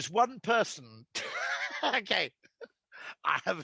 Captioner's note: Rory laughing